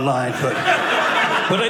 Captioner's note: audience laughing